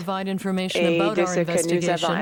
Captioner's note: speaking French